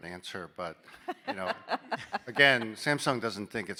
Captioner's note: laughing